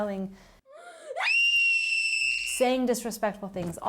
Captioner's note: girl Screaming